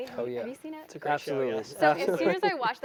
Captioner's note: laugh